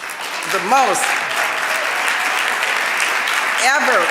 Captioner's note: audience clapping and cheering